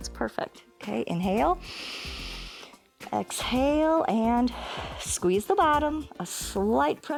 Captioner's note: inhales